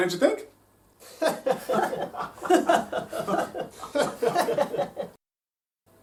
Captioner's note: all laugh